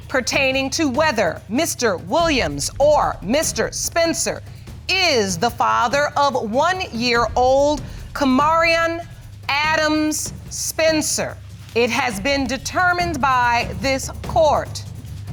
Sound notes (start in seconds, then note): none